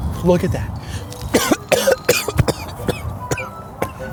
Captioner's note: coughing